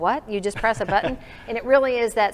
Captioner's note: chuckling